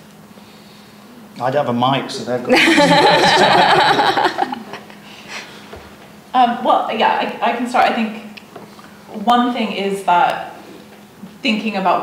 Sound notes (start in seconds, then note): 2.5 group laughs